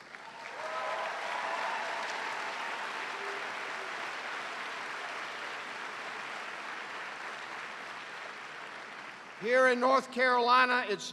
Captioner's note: cheers and applause